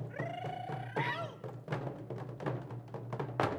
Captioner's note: shouting